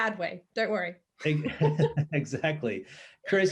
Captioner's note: laughing